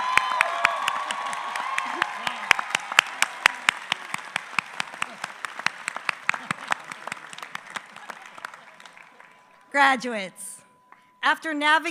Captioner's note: applause